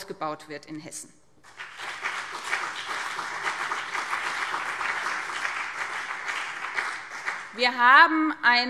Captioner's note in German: Beifall BÜNDNIS 90/DIE GRÜNEN und CDU